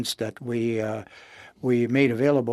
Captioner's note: speaking in French